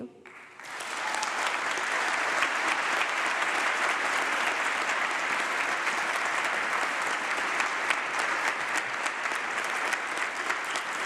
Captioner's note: applause